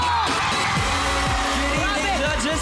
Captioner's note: audience screaming